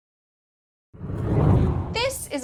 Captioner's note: hard whooshing